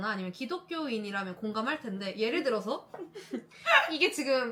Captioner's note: laughter